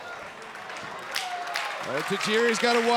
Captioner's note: audience applauding